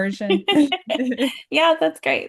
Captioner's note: chuckling